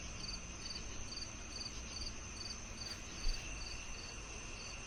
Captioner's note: crickets chirping